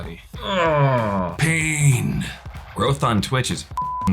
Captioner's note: groans; beep